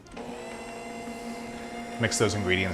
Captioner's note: mixer whirring